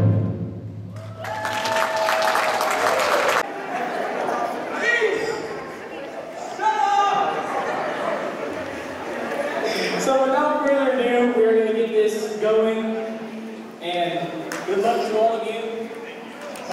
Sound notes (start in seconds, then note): 0.9 cheers and Applause; 5.6 lots of Commotion